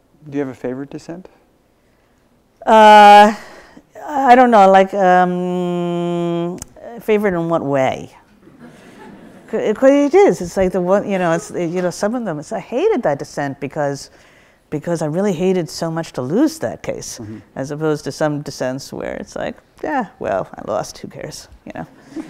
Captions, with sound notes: - Do you have a favorite dissent? - I don't know like, favorite in what way? (audience laughs) It's like the what, you know some of them. It's I hated that dissent because I really hated so much to lose that case. As opposed to some dissents where it's like, yeah, well, I lost who cares yeah (laughs).